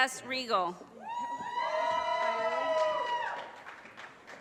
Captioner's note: audience cheers and applause